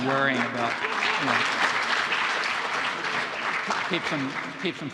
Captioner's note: audience applauding